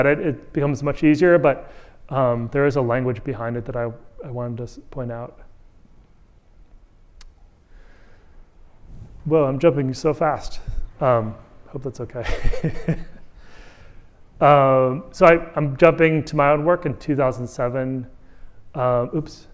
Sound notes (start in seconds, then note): 12.2 laughter